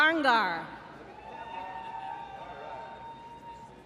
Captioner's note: applause